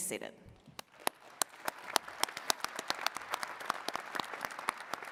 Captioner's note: attendees clapping